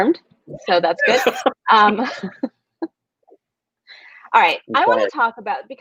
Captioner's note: laughing